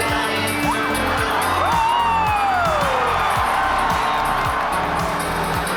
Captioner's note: crowd cheers